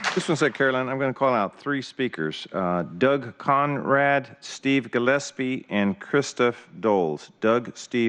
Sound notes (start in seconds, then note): 0.0 applause